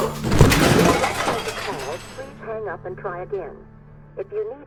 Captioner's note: voice on phone